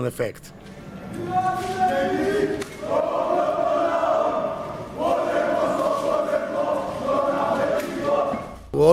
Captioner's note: chant